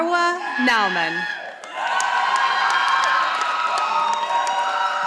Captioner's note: audience applauding